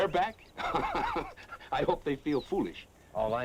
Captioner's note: laughs